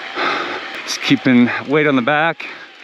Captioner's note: bike wheel skirts